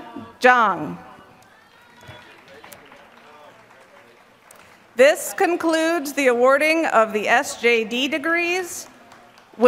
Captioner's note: applause